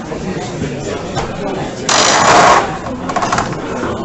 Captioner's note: screechy door opening